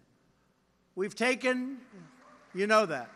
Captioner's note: applause